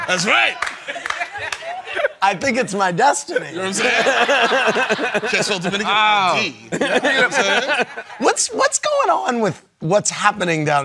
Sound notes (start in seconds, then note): 3.7 laughter